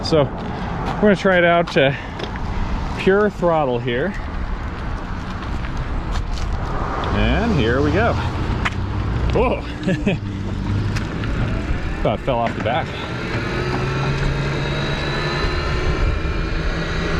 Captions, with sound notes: So, I'm going to try it out to pure throttle here. And here we go. Cool. If I fell off the back. (wheels whirring)